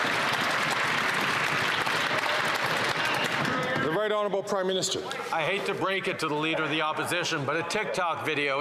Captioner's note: some Applause